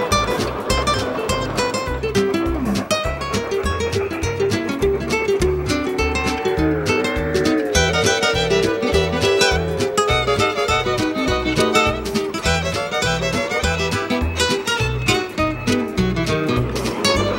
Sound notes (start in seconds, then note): 0.7 train chugging; 10.1 whistle blowing